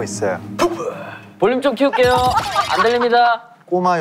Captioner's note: laughing out loud